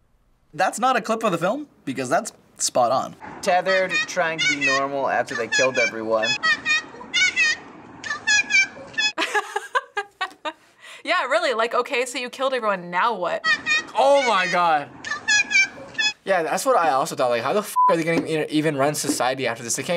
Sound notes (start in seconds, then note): 6.1 laughs; 6.4 woman squeaking loudly